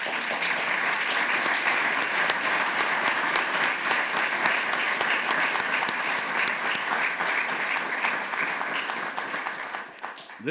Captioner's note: applause